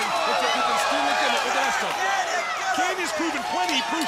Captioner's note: crowd cheering